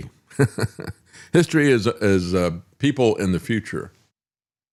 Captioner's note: laughs